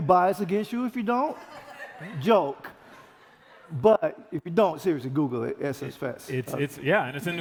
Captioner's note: laughter